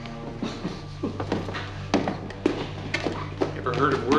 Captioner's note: George chuckling